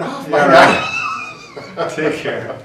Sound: both laughing

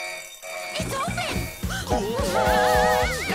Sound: alarm blaring; train whistling

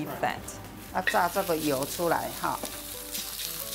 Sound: speaking local dialect

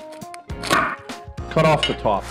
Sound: knife clanks

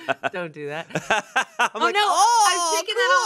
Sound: laughs

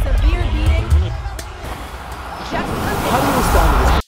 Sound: waves crashing

